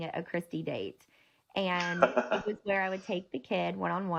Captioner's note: laughing